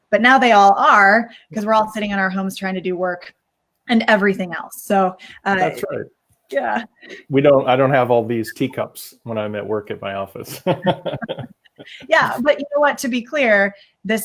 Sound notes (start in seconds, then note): 5.6 chuckles; 10.4 laugh